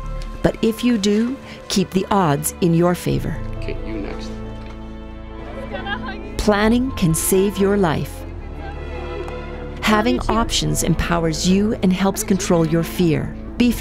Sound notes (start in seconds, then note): 5.3 group voices in background